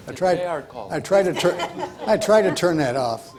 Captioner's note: panel laughs